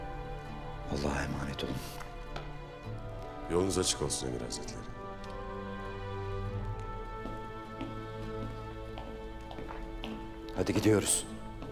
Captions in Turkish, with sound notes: Allah'a emanet olun. Yolunuz açık olsun Emir Hazretleri. (Ayak sesi) Hadi gidiyoruz.